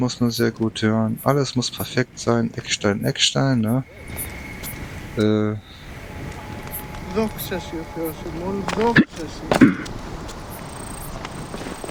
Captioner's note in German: räuspern